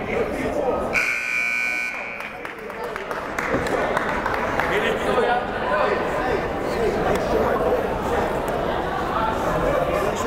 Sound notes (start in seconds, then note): 0.9 buzzer blaring; 4.2 chattering